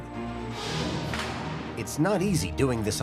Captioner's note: metal creaking, loud thud